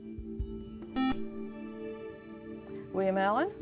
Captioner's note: buzzer